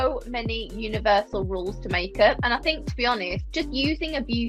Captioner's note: none